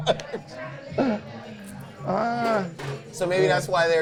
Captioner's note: both laughing